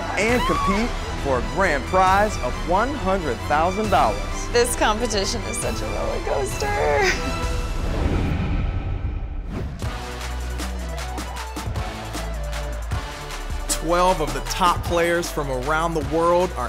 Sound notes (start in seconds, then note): 7.4 whooshing; 9.7 upbeat music